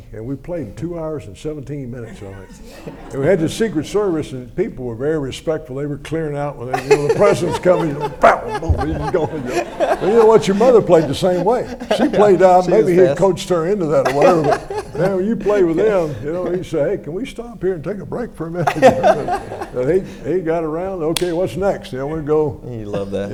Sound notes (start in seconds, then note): 7.8 makes scuffling noises